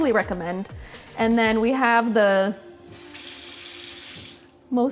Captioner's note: water splashing